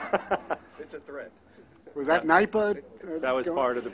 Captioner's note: laughter